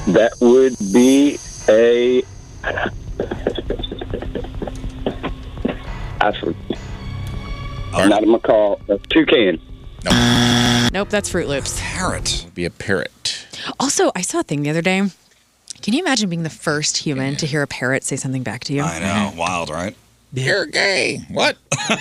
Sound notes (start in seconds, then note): 10.0 buzzer